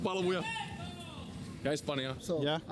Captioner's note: someone shouts in Spanish